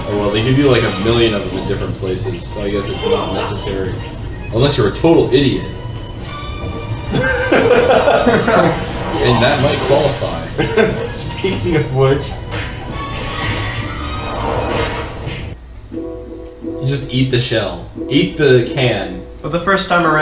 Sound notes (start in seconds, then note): 7.0 chuckle